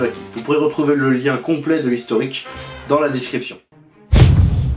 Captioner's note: in french